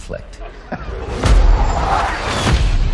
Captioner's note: laughs